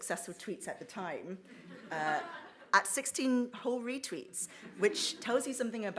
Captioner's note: audience laughs